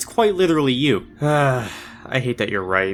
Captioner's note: sighs